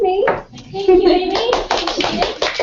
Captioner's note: applause